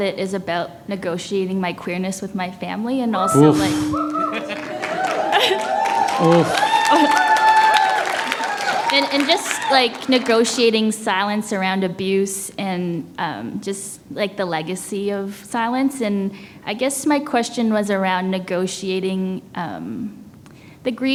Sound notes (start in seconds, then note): 5.4 applause